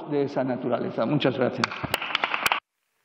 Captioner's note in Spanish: Aplausos